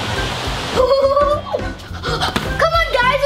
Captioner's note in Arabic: ضحك الطفل